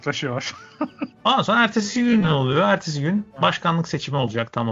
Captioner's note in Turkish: kahkaha